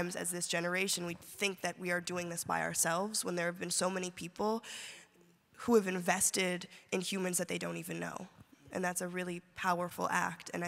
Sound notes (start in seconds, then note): none